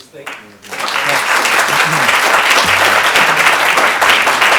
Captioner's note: audience applauds